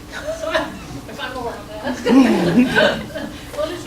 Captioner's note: laughing